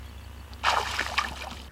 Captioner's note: splash